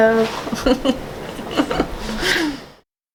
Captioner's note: laughs